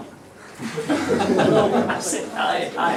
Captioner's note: laughter